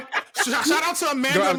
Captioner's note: laughing